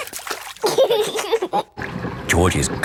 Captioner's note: giggling